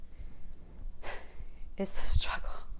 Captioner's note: sigh